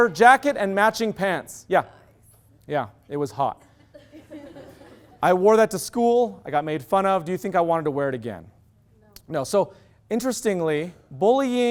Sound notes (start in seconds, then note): 3.9 loud laughter